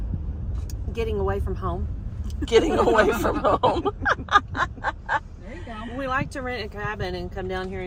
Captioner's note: laughter